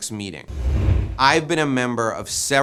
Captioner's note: air whooshing